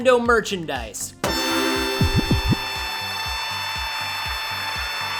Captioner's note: fanfare and cheering